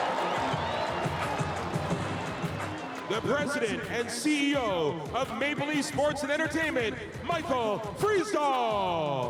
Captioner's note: cheering